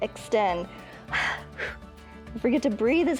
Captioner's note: inhales and exhales